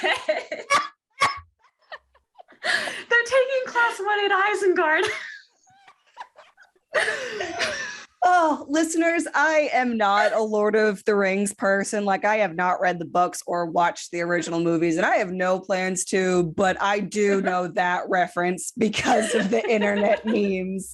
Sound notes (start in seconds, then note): 0.0 laughs so hard she blows the mic out; 5.5 also laughing; 7.6 continued laughter